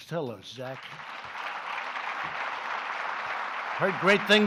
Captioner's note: applause